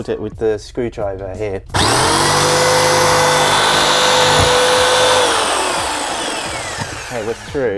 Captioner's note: sawing noise